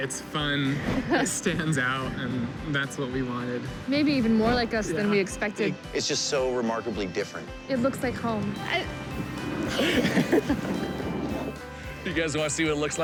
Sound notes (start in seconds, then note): 8.3 laughing